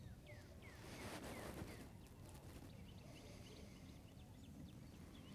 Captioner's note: heavy breathing